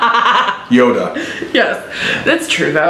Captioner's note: laughing